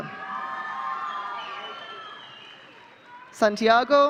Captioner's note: audience cheering